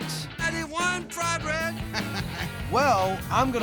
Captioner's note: laughter